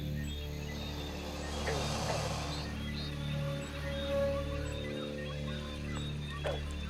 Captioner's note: insects buzzing; creatures hissing and buzzing